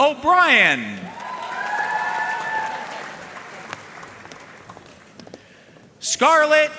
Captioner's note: audience cheering and applauding